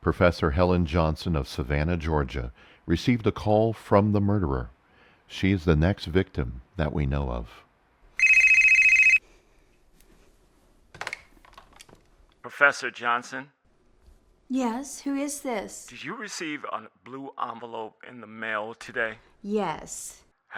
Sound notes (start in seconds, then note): 8.1 phone rings; 11.2 phone receiver clatters